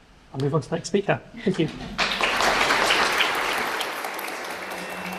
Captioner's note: applause; drone-like music